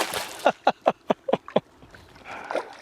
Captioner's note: laughter